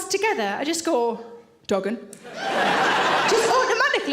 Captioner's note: audience laughing